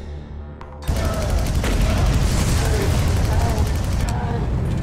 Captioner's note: gun firing